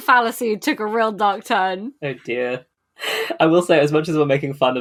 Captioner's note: laughing